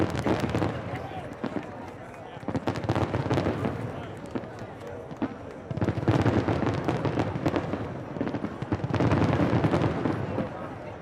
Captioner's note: cheers and applause